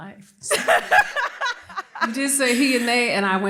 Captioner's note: laughter